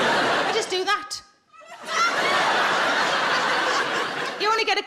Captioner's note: audience laughs